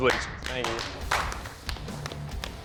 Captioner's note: applause